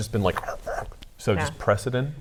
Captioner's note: growls